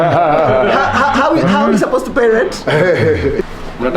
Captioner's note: laughs